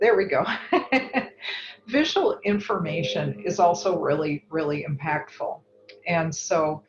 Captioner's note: laugh